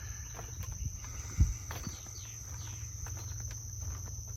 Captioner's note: footsteps tapping